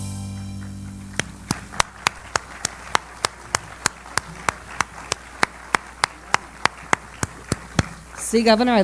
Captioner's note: applause